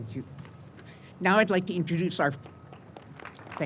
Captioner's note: applause